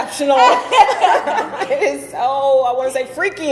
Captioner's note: both laughing